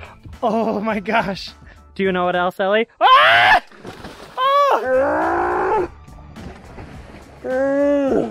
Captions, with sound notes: - Oh my gosh, do you know what else Ellie? (screams)